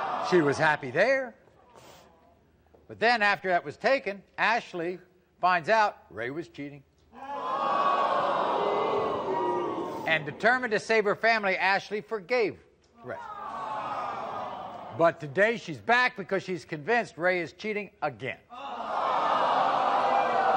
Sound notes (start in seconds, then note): 7.2 audience boos; 13.2 audience awes; 18.6 audience boos